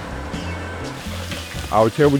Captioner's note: sizzling